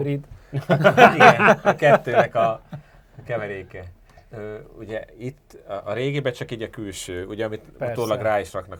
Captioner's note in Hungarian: nevetés